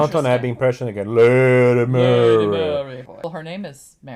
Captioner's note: low voice